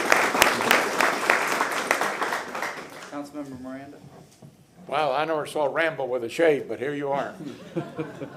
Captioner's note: applause